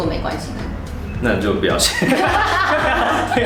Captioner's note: laugh